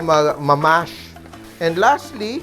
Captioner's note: sizzle